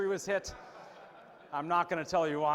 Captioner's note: audience laughs